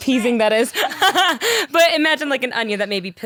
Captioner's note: laughing